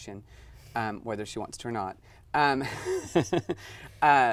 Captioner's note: laughs